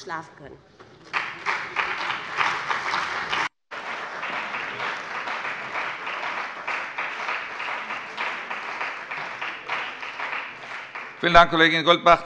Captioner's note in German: Beifall bei dem BÜNDNIS 90/DIE GRÜNEN und der CDU